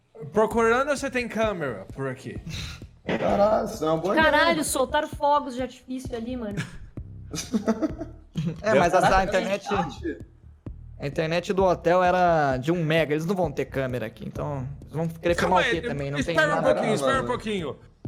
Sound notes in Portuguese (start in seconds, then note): 7.3 risos